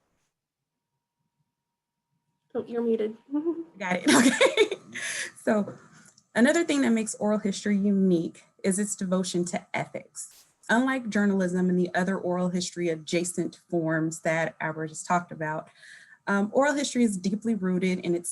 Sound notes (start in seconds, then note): 3.8 laughing